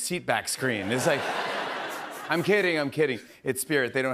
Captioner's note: laughter